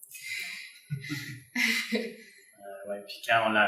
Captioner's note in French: rires